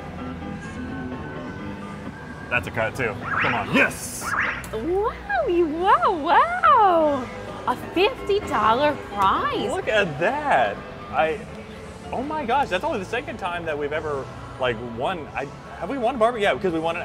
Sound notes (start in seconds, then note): 0.3 playful music; 3.2 game whistles; 3.2 thread whooshing